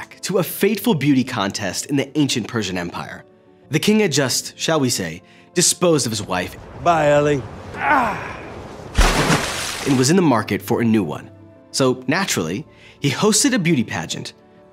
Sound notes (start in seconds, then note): 7.7 Irving groans; 9.0 water splashing